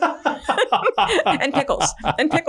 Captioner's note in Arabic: كلاهما يضحك